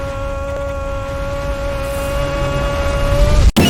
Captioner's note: screaming Noises Reverse